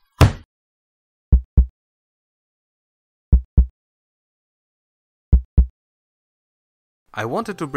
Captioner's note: heartbeat